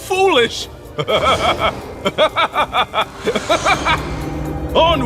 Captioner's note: laughs maniacally